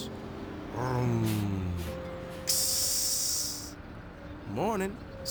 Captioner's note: hissing